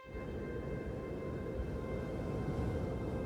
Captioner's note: wind blowing